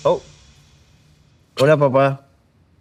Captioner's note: speaking in spanish